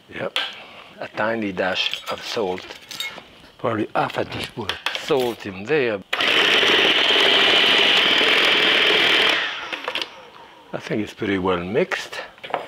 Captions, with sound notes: Yep, a tiny dash of salt, probably half a teaspoon salt in there. (food processor whirring) I think it's pretty well mixed.